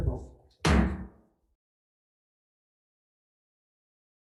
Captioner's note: gavel bangs